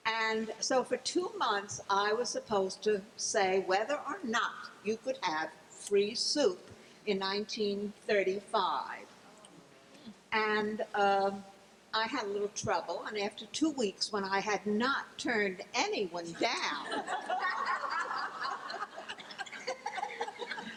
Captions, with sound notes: And so, for two months I was supposed to say whether or not you could have free soup in 1935. (gasp) And I had a little trouble and after two weeks, when I had not turned anyone down. (laughing)